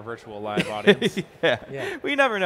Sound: laughs

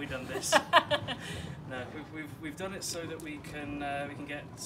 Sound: laughs

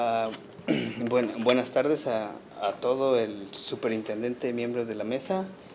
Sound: speaking Spanish

